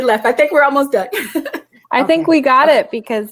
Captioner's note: laughing